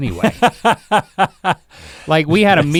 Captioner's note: Rhett laughs